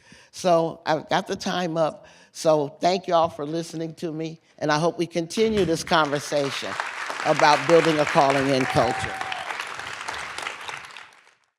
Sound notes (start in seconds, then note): 9.3 applause